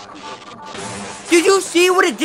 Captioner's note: sounds of a person getting blown up brutally